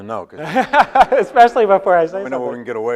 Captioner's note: laughs